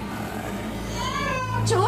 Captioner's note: baby cry